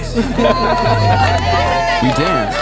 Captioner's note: and other people cheering and laughing